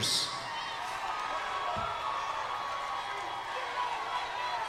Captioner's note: crowd cheers